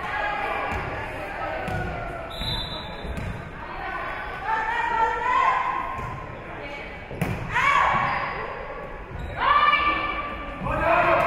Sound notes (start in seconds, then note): 2.2 whistle being blown; 4.5 spectators shouting encouragements